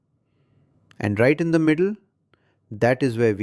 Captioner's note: pause